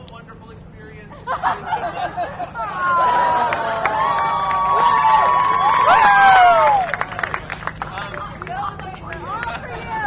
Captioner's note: laughter, audience awwws, cheers